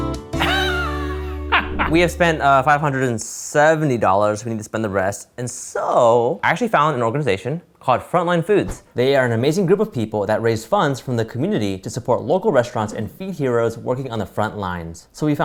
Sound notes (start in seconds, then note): 0.4 laughing; 1.5 air whooshing; 8.6 air whooshing